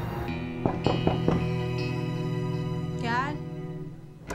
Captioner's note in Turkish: Kapı çalar